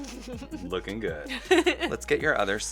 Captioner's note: laughs